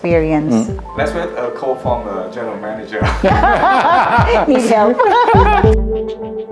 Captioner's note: laugh